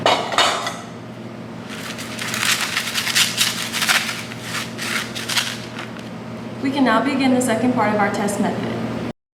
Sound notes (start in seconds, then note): 1.7 sand scratching